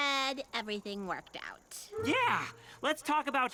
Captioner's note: giggling